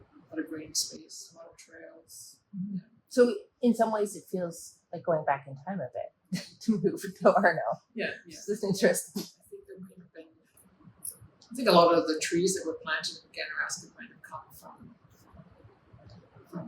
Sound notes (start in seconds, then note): 6.3 chuckles